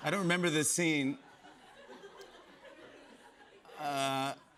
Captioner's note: laughter